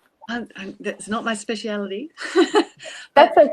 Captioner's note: chuckles